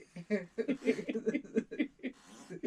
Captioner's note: muttered jokes and assorted laughter